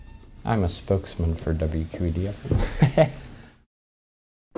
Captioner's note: laughs